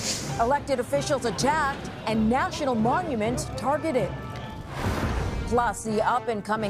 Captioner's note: explosion